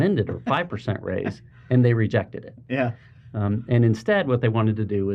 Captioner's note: laughing